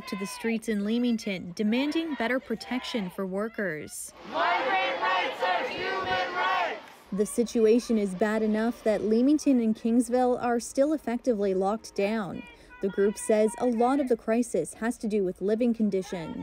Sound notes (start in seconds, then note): 5.7 chanting